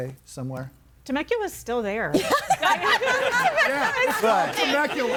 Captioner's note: everybody laughing